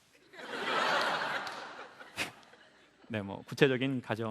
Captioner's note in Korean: 웃음